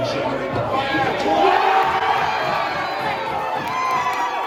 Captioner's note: everyone cheering